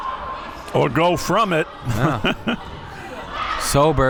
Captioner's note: laughs